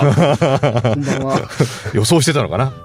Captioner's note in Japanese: 笑い